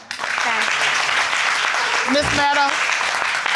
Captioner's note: crowd applauding